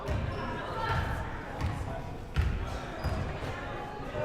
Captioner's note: crowd murmuring